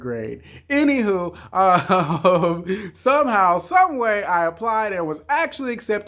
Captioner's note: chuckling